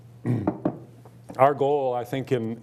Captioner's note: clearing throat